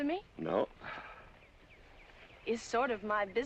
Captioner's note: sighs